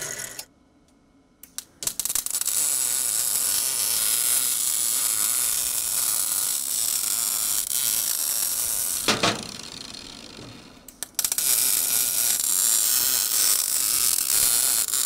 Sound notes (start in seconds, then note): 1.8 sparks flickering; 11.6 welding torch buzzing